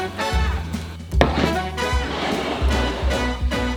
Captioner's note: plate sliding